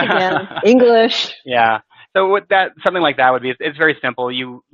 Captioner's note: laughing